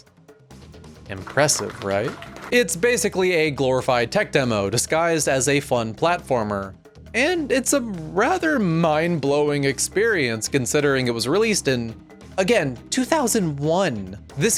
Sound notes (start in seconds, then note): 1.0 applause